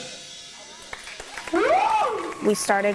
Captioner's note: crowd cheering